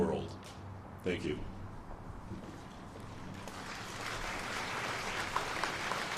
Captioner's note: applause